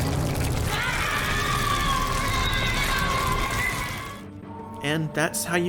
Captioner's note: primal Shrieking